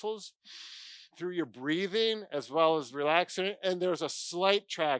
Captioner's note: deep breath